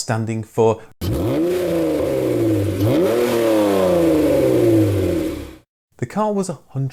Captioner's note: sound of engine revving